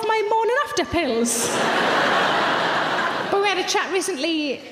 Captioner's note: audience laughs